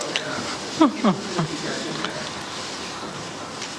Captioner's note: laughs